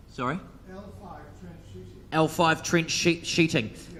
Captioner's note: man talking in crowd; speaks in foreign language